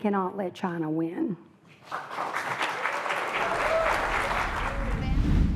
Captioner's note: applause